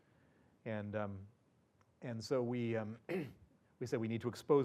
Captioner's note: cough